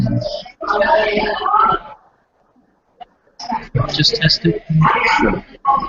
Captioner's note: general staticky clamor